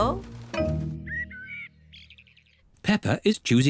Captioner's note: birds chirping